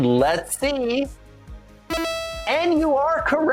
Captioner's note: electronic buzzer rings